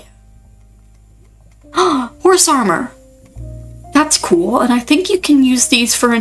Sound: gasp

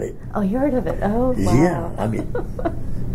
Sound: laughs

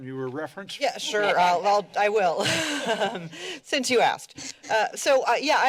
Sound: laughter

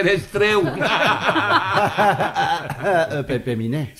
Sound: everyone laughs

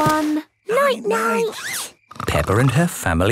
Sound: snores

